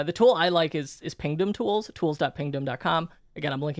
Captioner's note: none